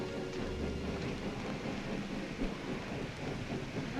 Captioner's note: train rumbling